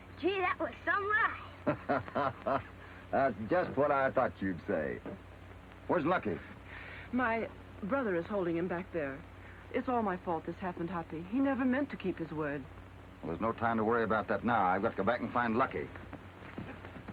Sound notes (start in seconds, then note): 1.5 Hoppy laughs